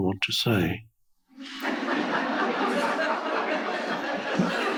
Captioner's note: audience laughing